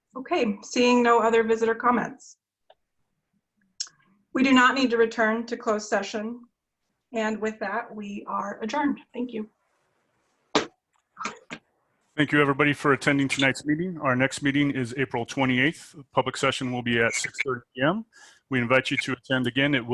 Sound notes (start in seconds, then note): 10.6 gavel banging